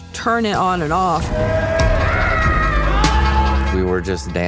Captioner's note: all cheering